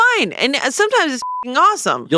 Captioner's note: beep